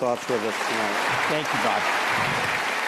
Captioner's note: audience applauding